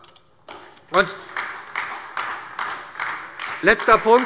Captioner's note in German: Beifall bei der SPD